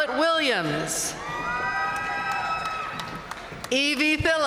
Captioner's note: audience cheering and applauding